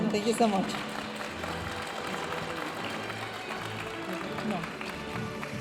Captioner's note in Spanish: hablando en inglés; aplausos de la audiencia